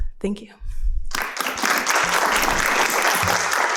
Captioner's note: applause